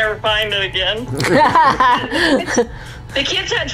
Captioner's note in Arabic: يضحك